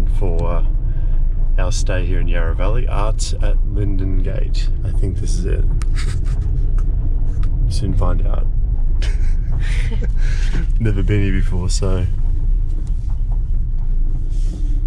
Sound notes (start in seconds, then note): 9.0 laughing